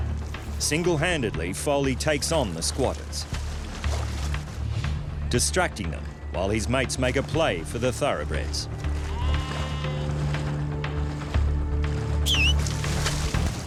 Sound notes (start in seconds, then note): 8.5 sheep baa'ing; 12.2 man whistles